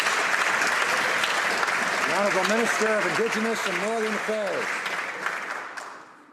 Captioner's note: some Applause